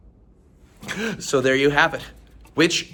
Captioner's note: gasps